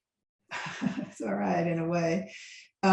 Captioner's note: laughs